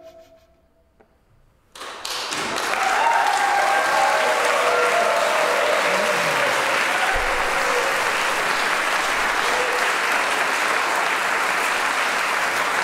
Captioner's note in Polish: aplauz, owacje